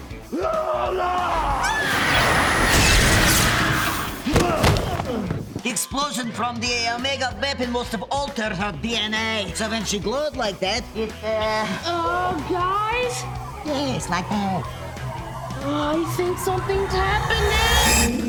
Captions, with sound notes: [screaming] [groaning] The explosion from the Omega Weapon must have altered her DNA so when she glows like that, it uh... Uh, guys? Yes, like that. I think something's happening.